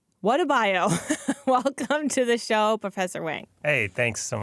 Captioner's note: laughs